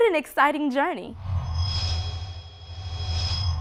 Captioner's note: sound Effects